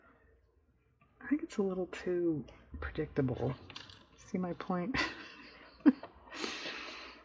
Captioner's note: laughs